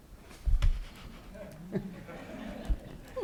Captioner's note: laughter